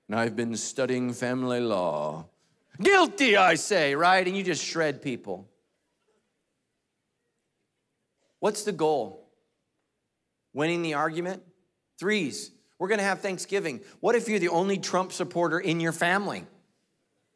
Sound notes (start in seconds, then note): none